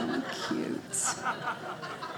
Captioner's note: audience laughing